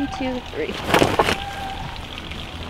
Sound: wings flapping

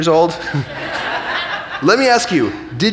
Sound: audience laughing

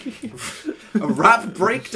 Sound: laugh

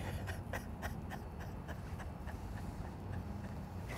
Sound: laughing

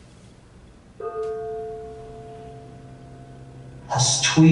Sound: gong

